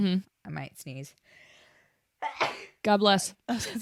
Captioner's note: sneezes